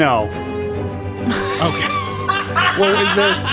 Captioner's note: laughing